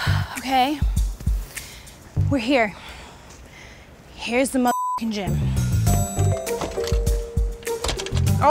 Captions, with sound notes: Okay, we're here. Here's the mother (computer bleeps) gym. (soft music)